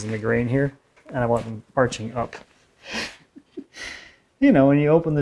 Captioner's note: laughs